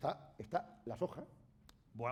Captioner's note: speaking spanish